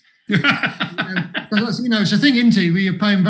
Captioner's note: laughs